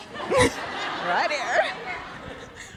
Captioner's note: audience laughing